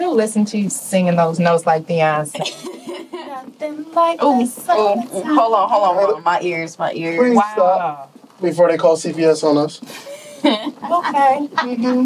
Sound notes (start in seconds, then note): 2.3 Alli laughs; 10.0 Alli laughs